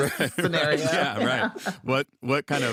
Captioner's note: all laugh